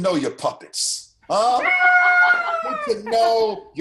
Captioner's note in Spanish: risas